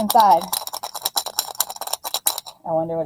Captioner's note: rattling noise